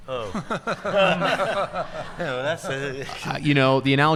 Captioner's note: group laughing